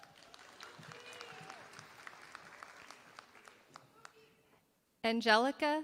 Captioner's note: applause